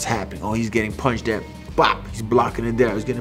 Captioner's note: exclaims